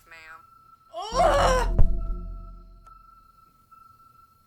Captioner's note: Caroline screaming